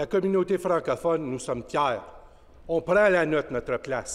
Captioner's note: speaking French